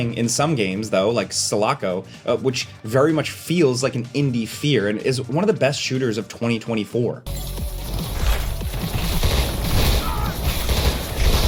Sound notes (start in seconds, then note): 8.2 guns firing; 9.9 character grunts; 11.3 guns firing continuing